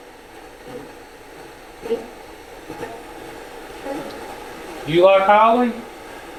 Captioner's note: static sound